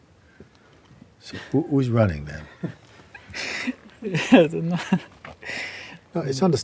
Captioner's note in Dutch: lacht